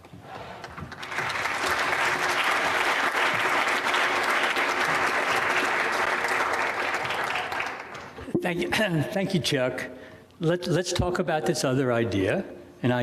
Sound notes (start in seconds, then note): 0.4 audience applauding